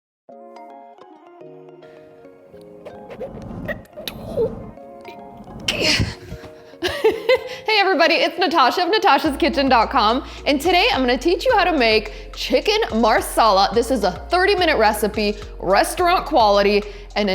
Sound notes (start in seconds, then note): 0.4 gentle music; 2.8 boards scraping